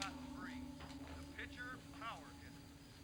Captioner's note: sound from tv